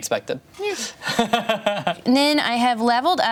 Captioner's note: laughs